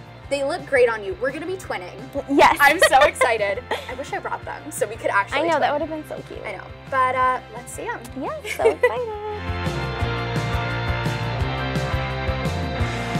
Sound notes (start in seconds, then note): 2.6 laughs; 9.7 upbeat music